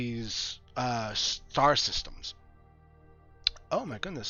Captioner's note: none